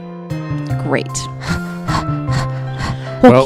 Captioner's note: panting